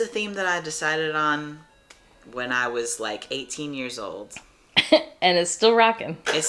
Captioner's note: laughs